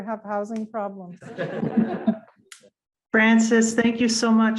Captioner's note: audience laughs